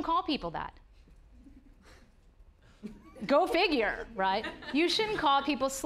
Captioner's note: audience laughing